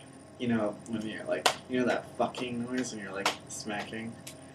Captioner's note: smack; smack